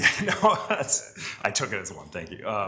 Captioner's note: laughs